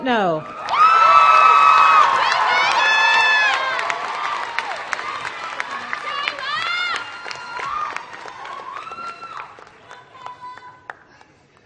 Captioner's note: applause